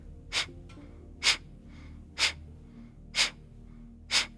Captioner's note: exhaling rapidly